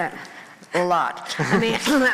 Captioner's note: crowd laughing